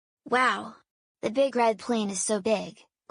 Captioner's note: none